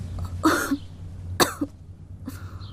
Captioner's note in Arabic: سعال